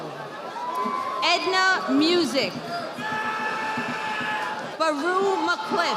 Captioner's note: audience applauding